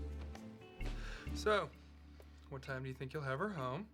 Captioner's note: sighs